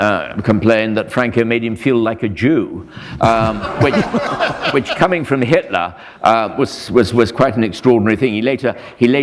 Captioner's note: laughter